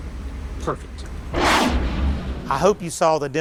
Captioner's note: dramatic booming